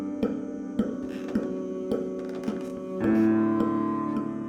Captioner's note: sound of stairs creaking